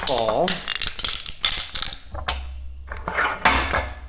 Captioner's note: metal can crunching